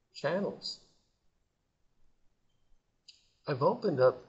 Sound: silence

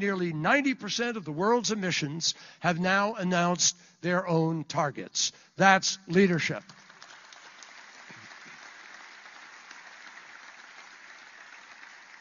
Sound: applause

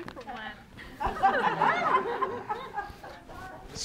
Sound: audience laughing

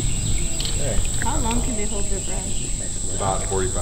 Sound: students talking

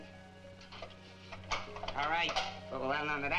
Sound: lock clicking

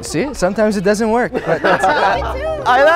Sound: laughing

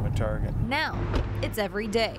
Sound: nat pop of door

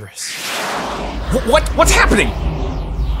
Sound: whooshing

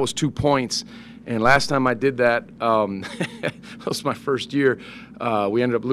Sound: laughs

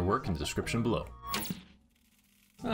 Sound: sound of CRT Screen truning of as sound slowly fades in

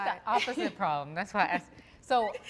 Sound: laughing

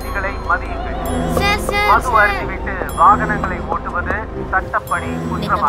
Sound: knocking

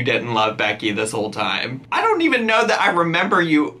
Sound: none

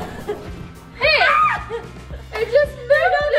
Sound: screaming

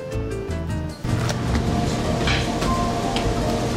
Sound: coolers hum

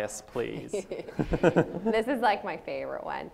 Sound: panel laughs

